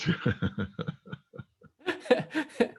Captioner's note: laughs